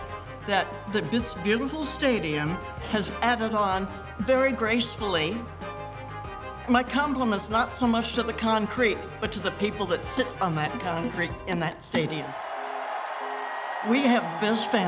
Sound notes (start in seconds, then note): 5.6 upbeat music; 11.9 crowd cheering